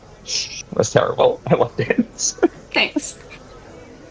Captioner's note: pained chuckle